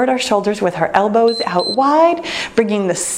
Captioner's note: timer beeps